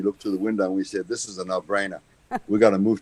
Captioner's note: laughs